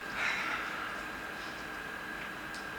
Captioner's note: none